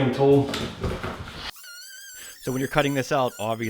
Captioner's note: machine whirls